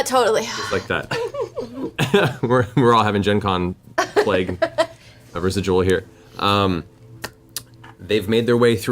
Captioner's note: laughs